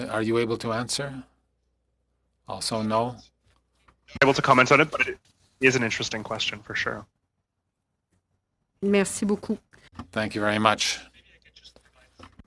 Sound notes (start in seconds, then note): 4.0 speaking French